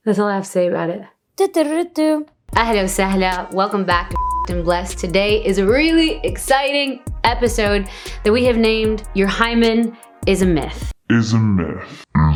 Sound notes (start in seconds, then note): 1.6 sings a tune; 2.9 speaking in Arabic; 4.1 beep; 11.2 deep echo